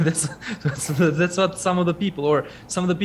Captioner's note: both laugh